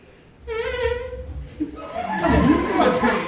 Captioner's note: whining